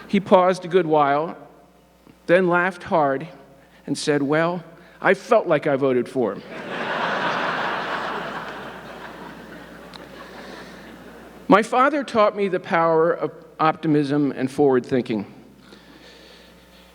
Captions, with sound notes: He paused a good while, then laughed hard, and said, "Well, I felt like I voted for him." (audience laughing) My father taught me the power of optimism and forward thinking.